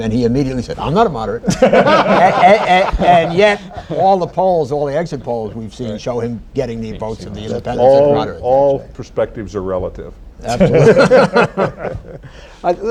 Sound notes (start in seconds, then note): 1.4 laughter; 10.5 laughter